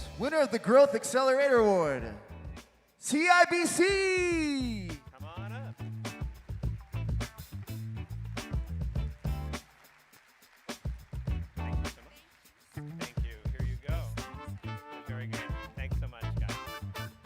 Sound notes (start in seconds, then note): 5.9 bright music; 10.6 audience clapping